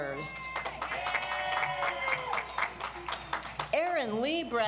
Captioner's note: audience applauds